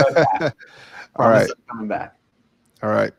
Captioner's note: laughing